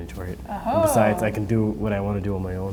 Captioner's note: laughing